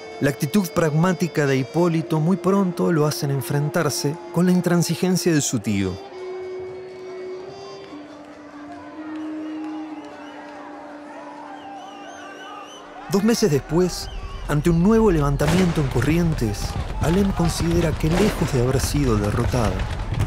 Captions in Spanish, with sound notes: La actitud pragmática de Hipólito muy pronto lo hace enfrentarse con la intransigencia de su tío. [Gritos, silbidos] Dos meses después, ante un nuevo levantamiento en Corrientes, Alem considera que, lejos de haber sido derrotado,